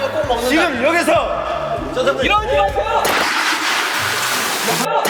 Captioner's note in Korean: 스윽